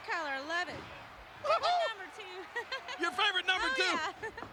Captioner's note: chuckling